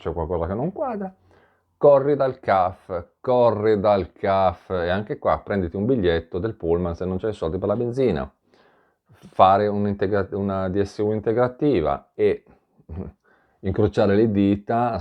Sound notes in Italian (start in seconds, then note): 12.9 schiarire la voce